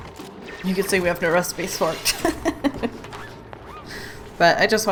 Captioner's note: laughs